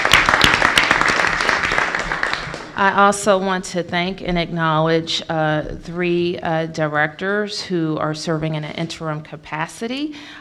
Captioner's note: applause